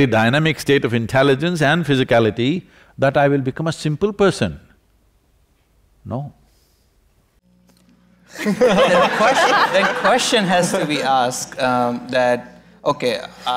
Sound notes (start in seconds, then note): 8.3 laughter